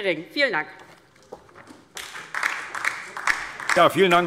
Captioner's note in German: Beifall DIE LINKE